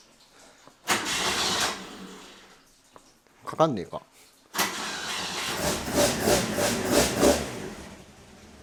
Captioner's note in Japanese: エンジン音